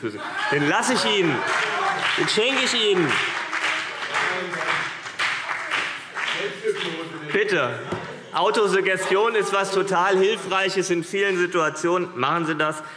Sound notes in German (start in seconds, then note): 5.5 Beifall CDU und BÜNDNIS 90/DIE GRÜNEN - Lachen und Zurufe Freie Demokraten